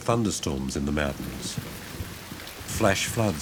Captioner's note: rain patters